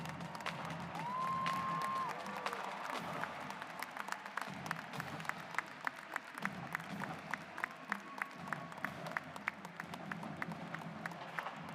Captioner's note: clapping